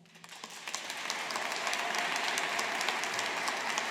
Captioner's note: audience applauding